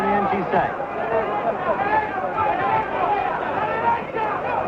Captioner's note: crowd cheers